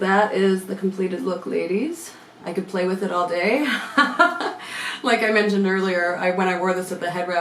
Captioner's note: laughing